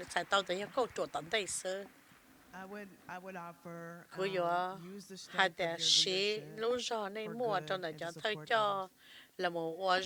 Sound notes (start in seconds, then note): 2.2 applause